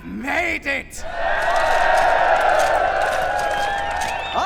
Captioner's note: cheering